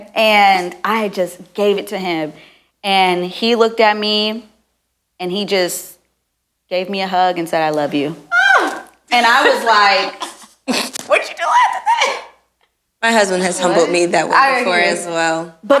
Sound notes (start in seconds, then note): 9.1 laughs